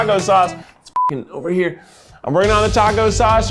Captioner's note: beeps